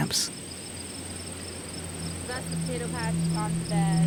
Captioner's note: birds chirp; bugs chitter